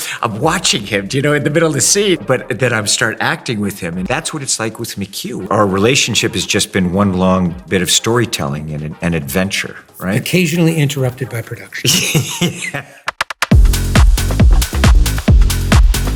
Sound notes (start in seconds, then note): 11.8 chuckling; 13.5 lively music